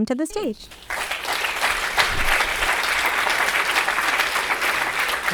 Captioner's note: people clapping